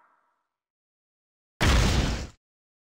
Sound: whack

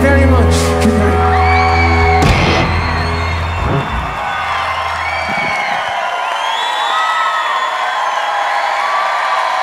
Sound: applause

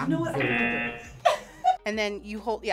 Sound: buzzer; laughs

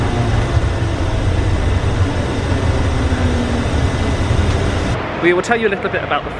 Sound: shuttle rumbling continues

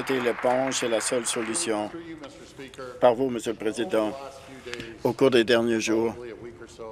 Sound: applause

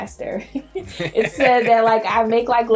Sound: laughing

